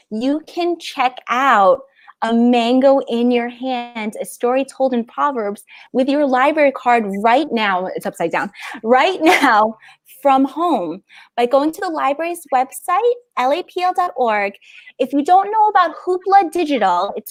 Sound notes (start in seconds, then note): 10.0 laughs